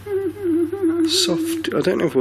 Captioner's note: imitating whimpering